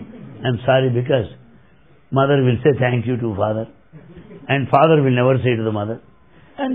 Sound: laughter; laughter

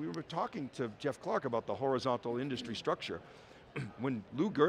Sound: coughs

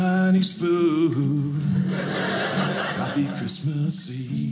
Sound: audience laughing

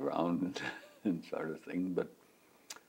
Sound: laughs

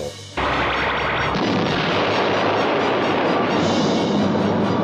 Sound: loud explosion; intense music

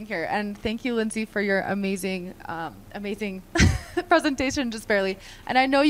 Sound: laughter

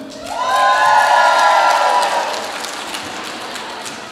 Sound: audience applauds

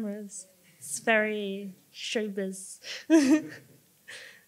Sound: laughs

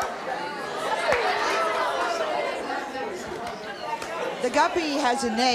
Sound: audience jeering

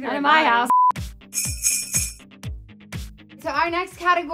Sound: christmas bells ring

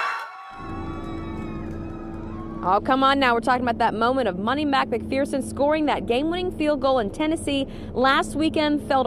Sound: cheering

